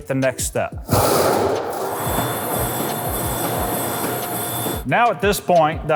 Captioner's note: machine whirring